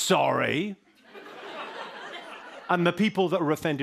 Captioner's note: laughter